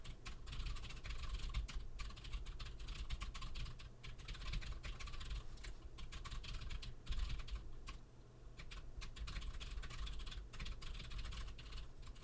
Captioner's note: typing sounds